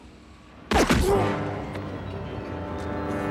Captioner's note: grunts